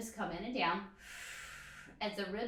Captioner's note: exhales breath